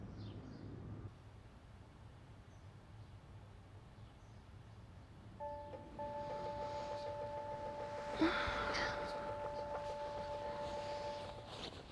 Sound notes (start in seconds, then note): 5.4 phone chiming